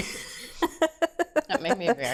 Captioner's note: laughs